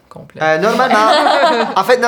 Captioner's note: laughter